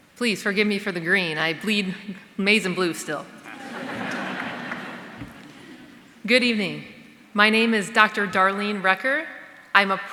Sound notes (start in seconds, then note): 3.3 audience laughing